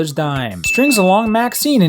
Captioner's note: ding